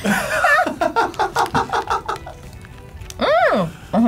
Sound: laughs

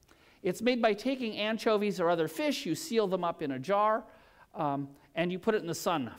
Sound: none

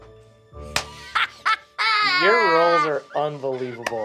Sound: claps; laughs triumphantly

